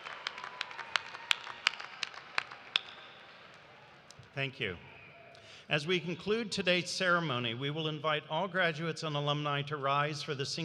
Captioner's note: cheers and applause